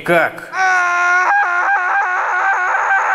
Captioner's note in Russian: Малыш Кобяков орёт